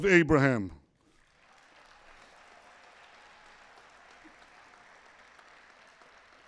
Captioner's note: applause